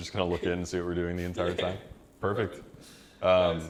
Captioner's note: laughs